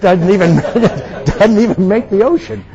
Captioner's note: attendees laughing